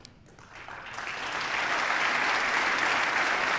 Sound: applause

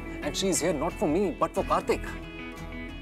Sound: none

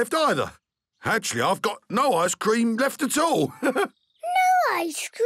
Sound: chuckles

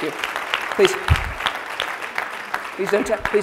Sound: applause

